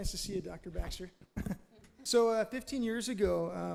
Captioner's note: laughs